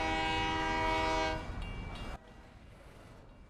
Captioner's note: horn blowing; crossing bells ding